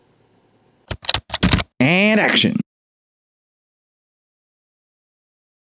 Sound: typing

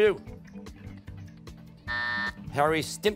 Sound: timer

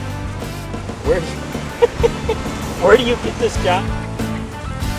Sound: laughs

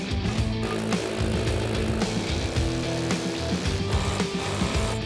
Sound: drill hammering

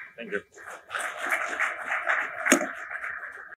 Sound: audience applauds

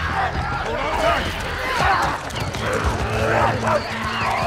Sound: raging

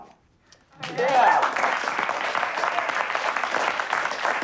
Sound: cheers and applause

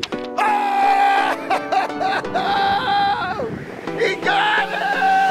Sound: male instructor laughing

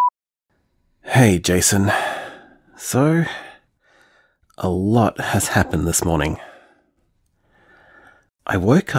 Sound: sigh

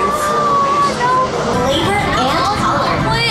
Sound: mimicking screaming

